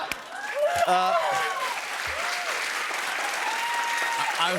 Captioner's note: cheers and applause